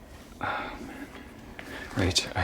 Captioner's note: sighs